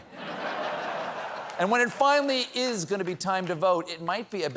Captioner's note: laughter